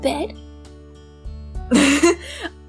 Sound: laughs

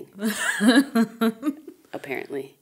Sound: chuckling

